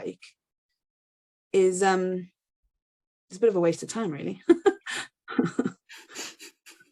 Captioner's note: laughs